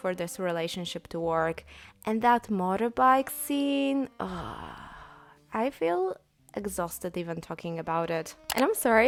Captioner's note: sigh